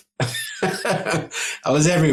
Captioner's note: laughing